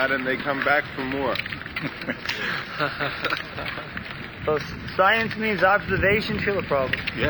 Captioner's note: Prabhupāda chuckles